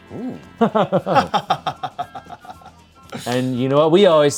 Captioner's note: everyone laughs